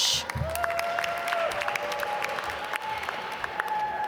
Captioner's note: applause